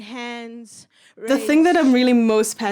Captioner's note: Sali reading the poem fades into the background